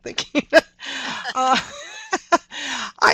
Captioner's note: laughter